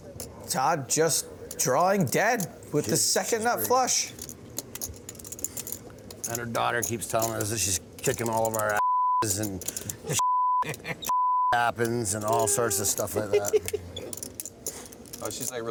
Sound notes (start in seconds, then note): 10.2 beep; 13.5 laughing